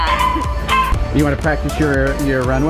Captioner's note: dog barking